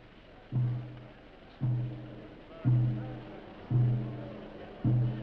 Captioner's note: slow percussive music; people chattering